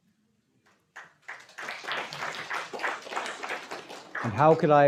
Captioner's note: audience applauding